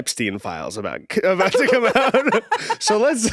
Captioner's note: laughs